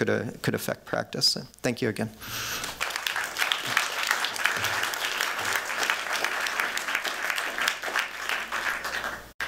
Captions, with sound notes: could affect practice. Thank you again. [applause]